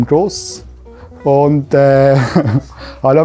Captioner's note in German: lacht